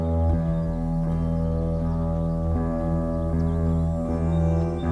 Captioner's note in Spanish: none